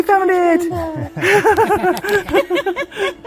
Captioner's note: everyone laughing